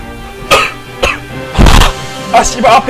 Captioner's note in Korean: 켁켁